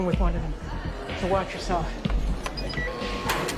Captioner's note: door beeps, buzzes